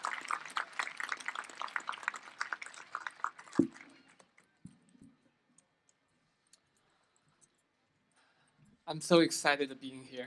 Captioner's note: applause